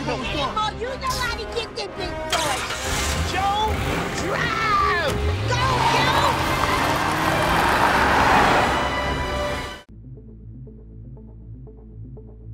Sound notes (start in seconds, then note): 2.3 engine starts; 6.5 tires screeching